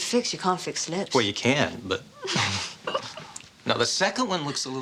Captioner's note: both chuckling